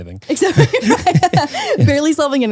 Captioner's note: laughing